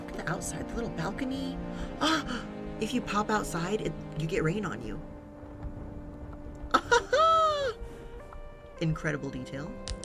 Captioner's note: gasps; laughs